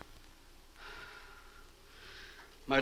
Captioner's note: Marlowe sighs